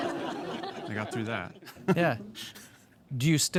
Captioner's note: audience laughing